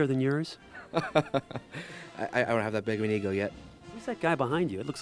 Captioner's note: laughing